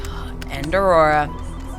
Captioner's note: sighs deeply